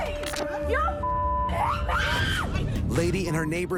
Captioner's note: lady screams